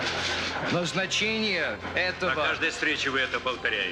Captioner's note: speaking Russian